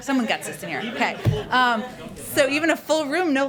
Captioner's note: laughter